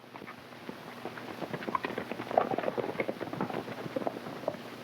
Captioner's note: hooves clopping